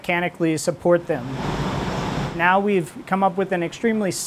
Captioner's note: 3D printer whirring